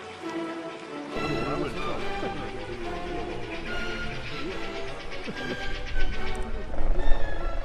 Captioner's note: indistinct conversation